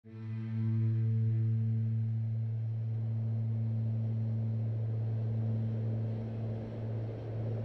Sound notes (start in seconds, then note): 0.0 slow orchestral music; 2.5 wind blowing